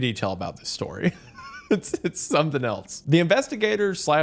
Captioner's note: laughs